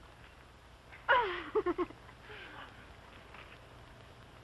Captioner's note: giggles